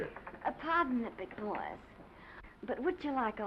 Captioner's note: sultry accent